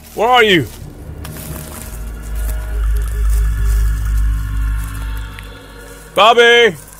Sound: walking through leaves

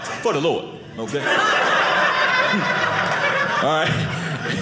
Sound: audience laughing

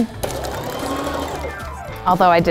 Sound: sewing machine whirring

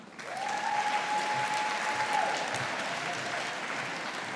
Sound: audience applauding

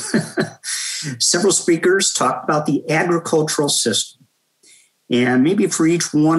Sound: laugh

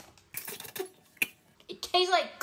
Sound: spitting

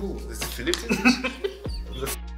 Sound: Broky laughing

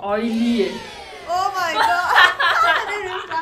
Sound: laughs

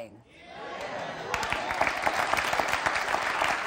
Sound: cheers

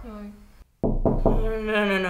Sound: frantic door knocking sound

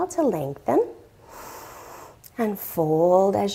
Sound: inhales deeply

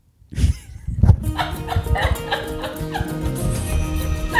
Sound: women laughing

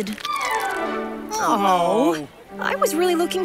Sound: groaning

